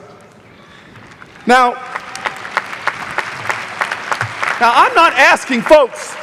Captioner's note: audience applauding